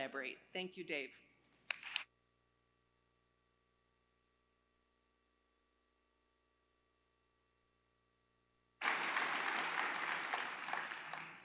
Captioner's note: applause